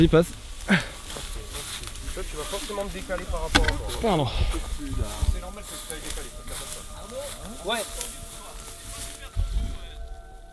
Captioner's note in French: discussions et bruit du blé qu'on écrase